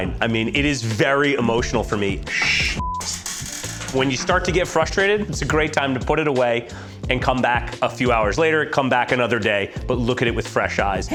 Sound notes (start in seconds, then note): 2.3 chair creaking; 2.4 beep